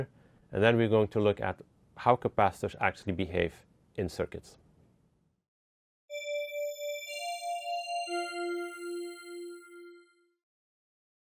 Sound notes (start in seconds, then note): 6.1 chimes